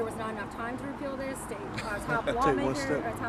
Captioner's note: reverend laughs